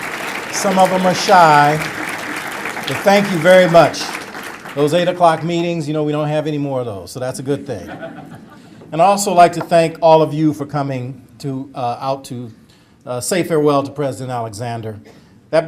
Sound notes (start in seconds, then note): 0.0 applause; 7.6 audience laughter